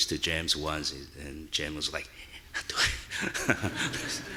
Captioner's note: laughing; audience laughing